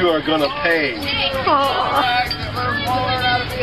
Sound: laughing

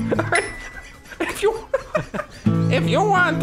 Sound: wheezy giggling; laughs

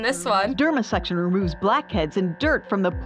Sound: voice-over

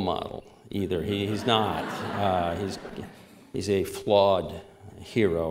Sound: laughter

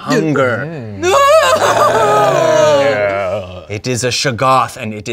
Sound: screams

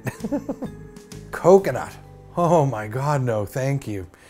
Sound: laugh

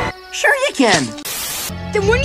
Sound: Static

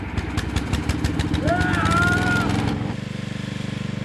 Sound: fearful screaming

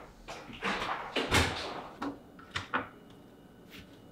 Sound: door closes

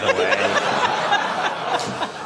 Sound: laughter

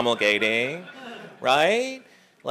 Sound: laugh

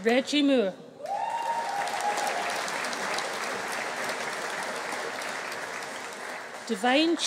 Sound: audience cheering; audience applauding

